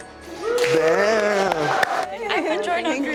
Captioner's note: everyone cheering